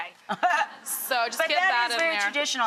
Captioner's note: laughs